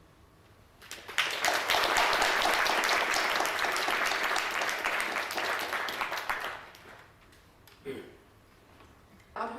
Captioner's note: audience applauding